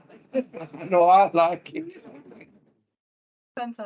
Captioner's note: audience and panel laughs